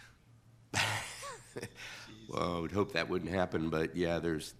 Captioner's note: laughs